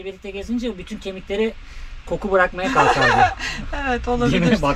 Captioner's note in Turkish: kahkaha